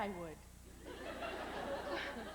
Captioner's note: laughter